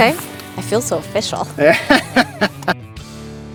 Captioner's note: laughing; mellow music continues